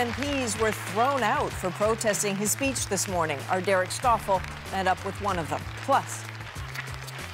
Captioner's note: applause